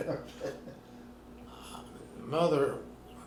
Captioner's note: laughing